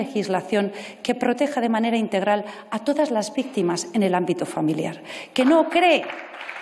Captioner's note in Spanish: aplausos